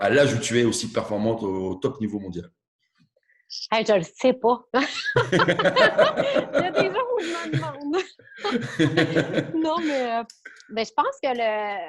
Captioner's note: laughs